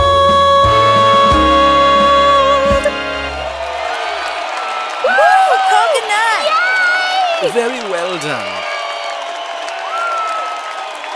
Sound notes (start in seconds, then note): 2.2 cheering and applause